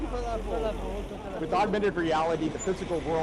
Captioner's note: people speaking in foreign language